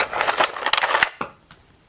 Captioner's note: noise of pieces moving on wood